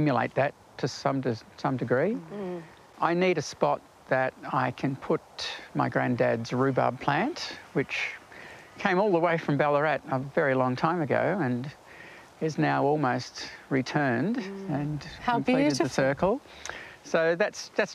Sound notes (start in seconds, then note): none